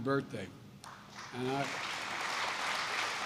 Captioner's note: applause